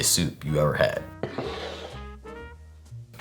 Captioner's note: cup sliding